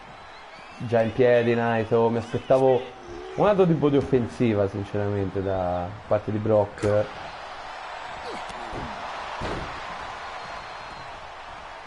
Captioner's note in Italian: Applauso